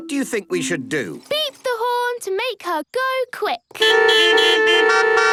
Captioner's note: beeping